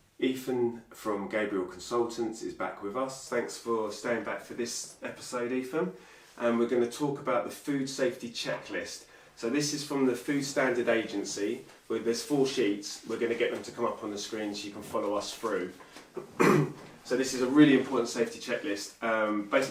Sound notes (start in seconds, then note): 16.1 clears throat